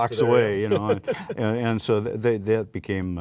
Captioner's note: laughter